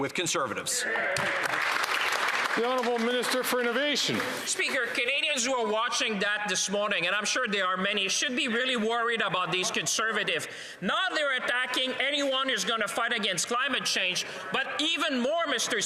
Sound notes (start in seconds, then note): 3.8 some Applause